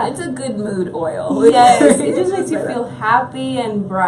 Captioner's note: chuckles